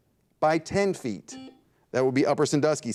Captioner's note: buzzer dings